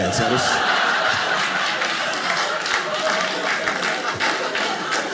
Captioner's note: audience clapping